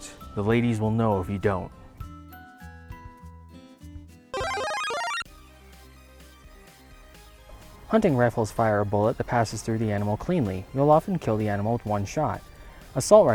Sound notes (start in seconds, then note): 4.3 Super Mario Bros power up